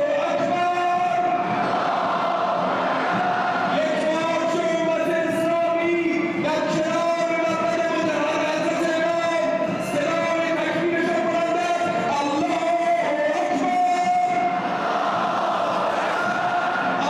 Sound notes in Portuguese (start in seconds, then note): 0.3 falando persa